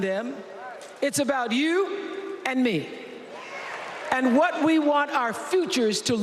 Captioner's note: cheers and applause